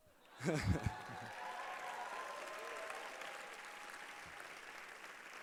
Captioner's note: applause